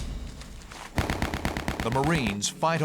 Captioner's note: gunshots